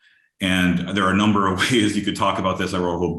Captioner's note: chuckles